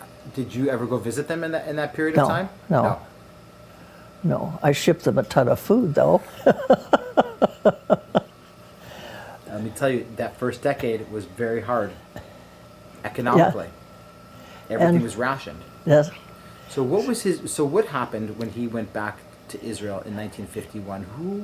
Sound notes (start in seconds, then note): 6.3 laughs